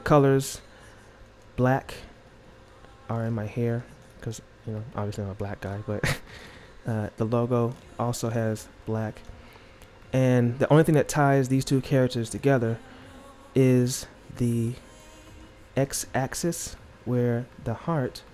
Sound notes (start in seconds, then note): 6.0 laughs